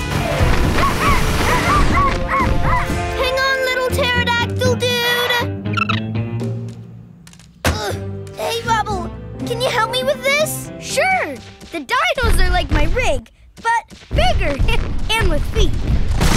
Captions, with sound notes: [barking] Hang on, little pterodactyl, dude. [chirping] Hey, Rubble, can you help me with this? Sure. The dinos are like my rig, but bigger and with feet.